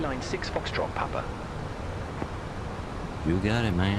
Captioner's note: radio chatter